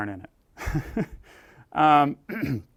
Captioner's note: laugh